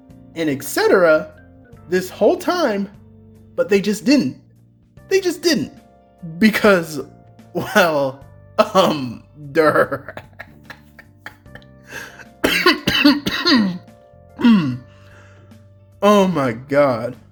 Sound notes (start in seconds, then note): 11.9 insane laughter and coughing